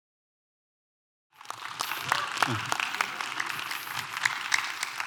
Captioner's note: applause